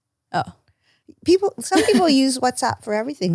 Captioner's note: laughs